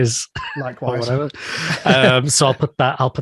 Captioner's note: both laughing